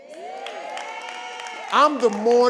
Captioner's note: audience cheering